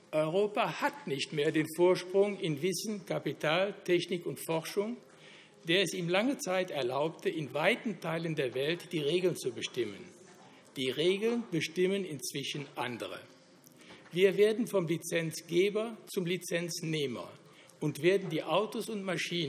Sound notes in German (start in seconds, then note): none